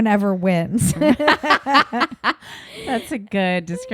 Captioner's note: both laughing